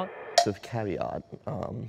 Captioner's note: clicking sound